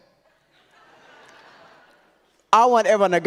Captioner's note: audience laughs